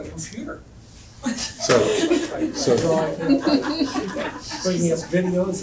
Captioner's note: crowd laughs